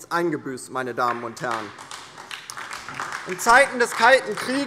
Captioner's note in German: Beifall DIE LINKE und vereinzelt SPD